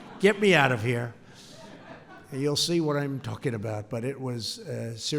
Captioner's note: laughter